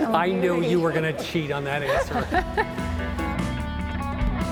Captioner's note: all laughing